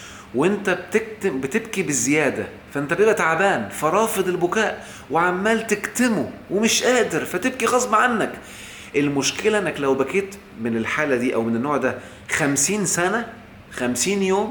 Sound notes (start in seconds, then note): none